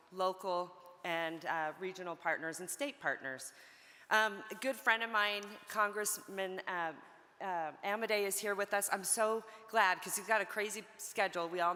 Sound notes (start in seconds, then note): none